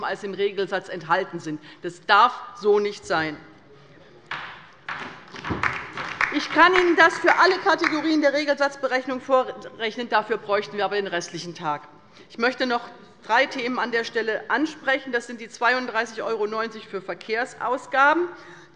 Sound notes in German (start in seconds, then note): 4.9 Beifall bei der LINKEN